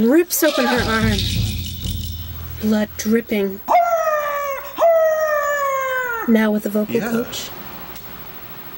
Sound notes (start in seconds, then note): 3.7 she howls